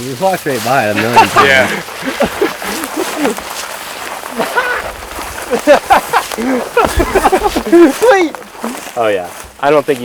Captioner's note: laughing